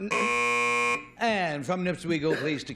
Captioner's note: buzzer